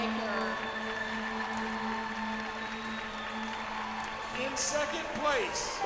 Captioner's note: cheers and applause